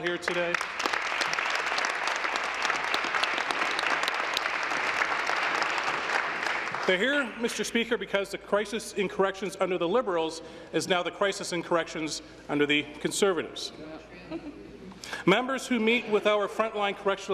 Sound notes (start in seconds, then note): 7.6 applause